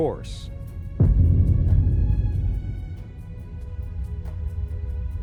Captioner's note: spacecraft crashes